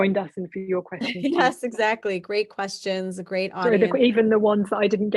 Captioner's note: chuckling